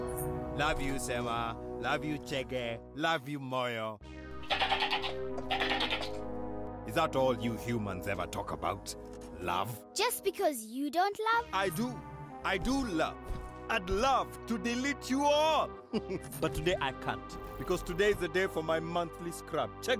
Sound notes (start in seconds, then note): 5.4 angry bleating; 15.9 chuckling